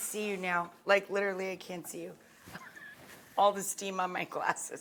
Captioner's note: laughing